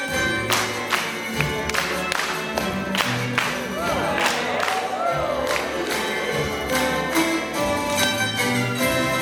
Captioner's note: clapping